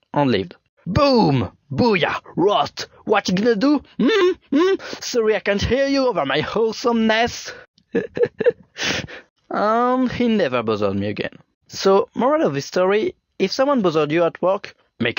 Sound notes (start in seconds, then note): 7.9 laugh